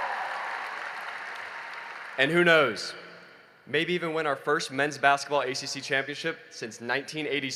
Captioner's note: cheering and applause